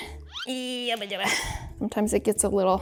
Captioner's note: grunting